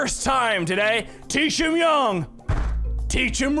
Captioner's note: bang